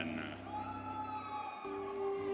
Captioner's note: audience cheering